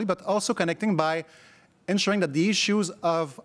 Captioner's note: none